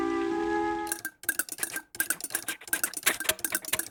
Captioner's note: sound of engine clattering; chuffing